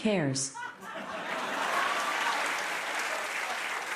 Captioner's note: cheers and applause